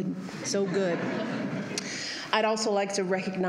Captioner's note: laughter